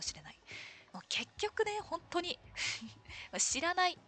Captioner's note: laughs